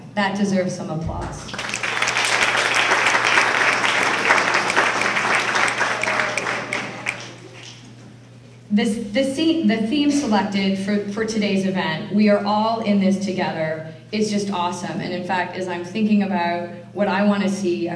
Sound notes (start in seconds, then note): 1.4 applause and finger snapping